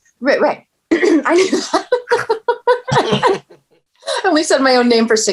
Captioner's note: laughing